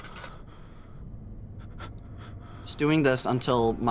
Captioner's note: Daniel breathing shakily